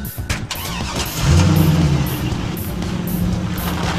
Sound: engine revving

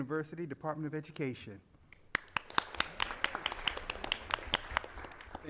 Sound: applause

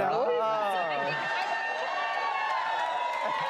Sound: cheering

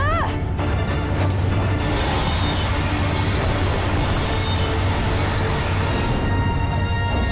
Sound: screeching

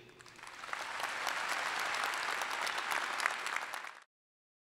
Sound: applause

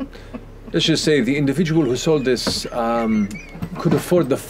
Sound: laughter; laughter

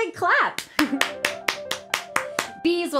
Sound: clapping

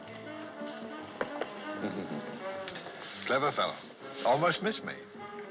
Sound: chuckling

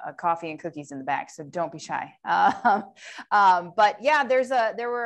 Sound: laughter

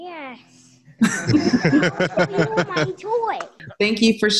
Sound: all laugh

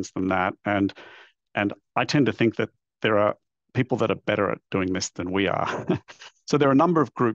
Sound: laugh

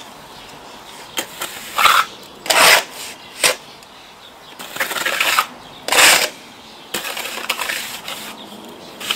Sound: sound of cement being applied birds singing

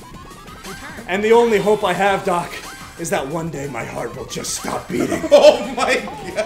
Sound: laugh

